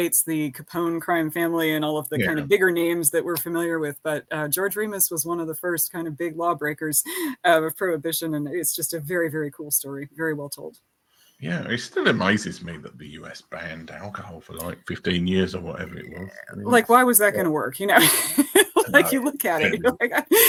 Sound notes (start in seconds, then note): 17.9 laughing